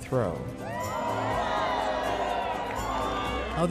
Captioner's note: crowd cheers excitedly